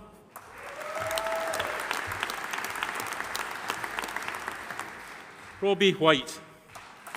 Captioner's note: audience applauding; audience cheering